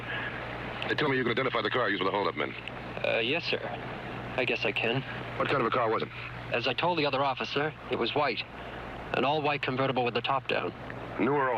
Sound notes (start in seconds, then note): none